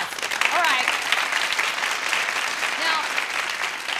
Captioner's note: clapping